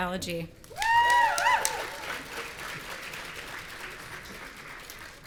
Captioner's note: audience cheering